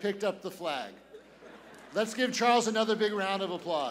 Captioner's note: laughter